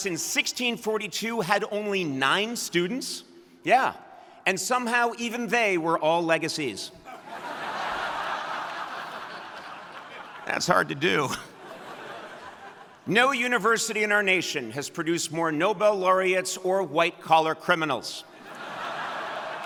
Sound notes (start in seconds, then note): 9.2 audience laughing